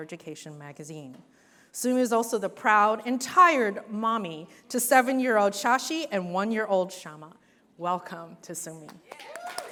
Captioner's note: cheers